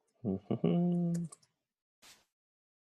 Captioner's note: hums